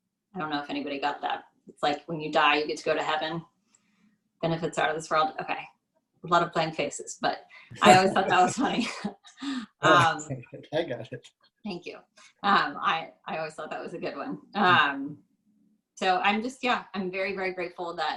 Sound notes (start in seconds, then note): 7.8 laugh; 7.8 laughs